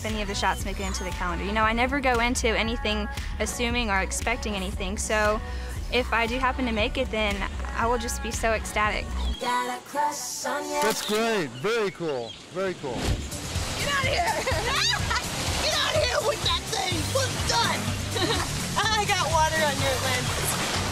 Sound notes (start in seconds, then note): 11.5 camera snaps; 14.6 screams